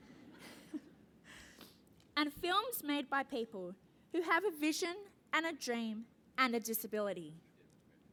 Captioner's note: laugh